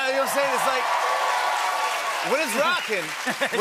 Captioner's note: cheers and applause